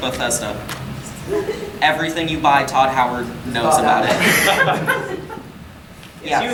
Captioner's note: audience laughing